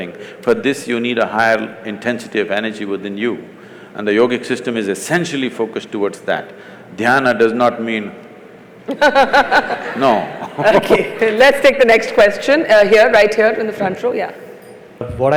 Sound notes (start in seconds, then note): 8.9 laughter; 8.9 laughs